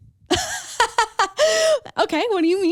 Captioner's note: laughs